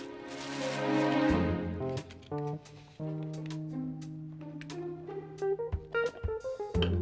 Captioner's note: groovy upbeat music; packet shuffling